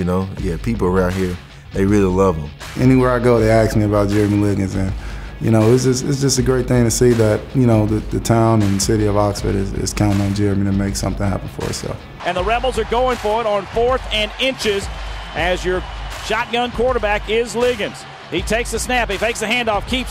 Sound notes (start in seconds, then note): 12.4 voiceover